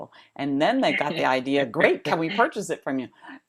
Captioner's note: laughter